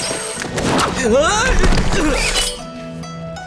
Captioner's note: grunting